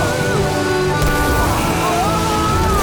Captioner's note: screaming